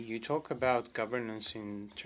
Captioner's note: speaking French